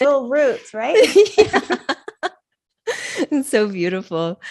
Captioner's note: both laughing